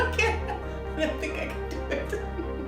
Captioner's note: laugh